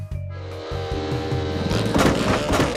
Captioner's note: motor sputters; motor whirs; coughs